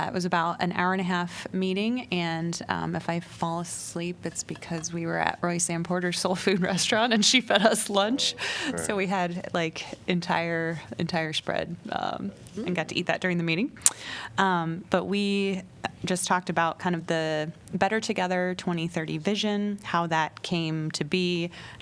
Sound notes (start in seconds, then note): 8.0 laughter